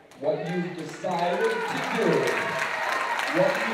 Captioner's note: applause